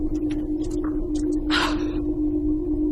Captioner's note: gasps